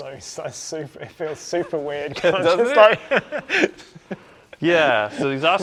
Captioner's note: laughing